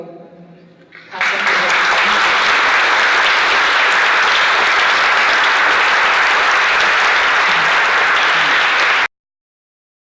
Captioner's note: applause